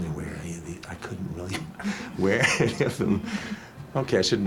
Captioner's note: laughing